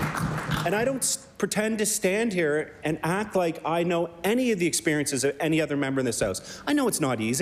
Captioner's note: applause